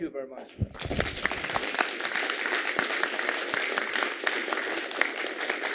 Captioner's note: applause